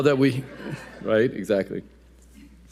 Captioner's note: audience laughing